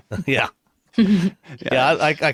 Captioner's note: chuckles